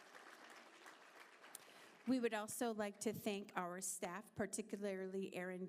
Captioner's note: applause